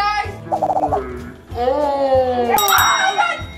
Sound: slow motion whooshing sound and cheering; cheering and triumphant bell sound

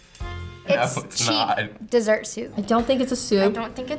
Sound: laughs

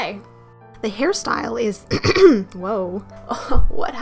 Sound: coughs

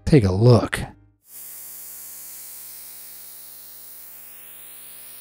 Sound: static noise

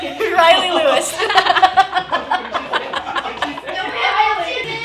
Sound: laughter

